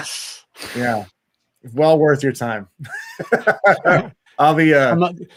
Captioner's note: laughs